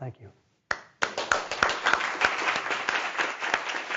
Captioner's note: applauding